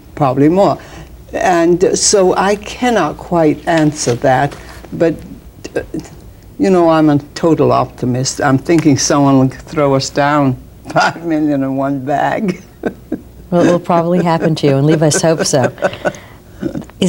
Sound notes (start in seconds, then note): 10.9 chuckles; 12.4 laughs